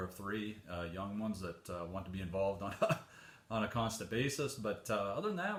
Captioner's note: chuckles